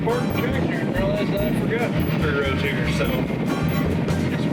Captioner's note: wind howls